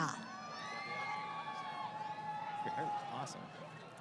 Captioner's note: crowd Cheering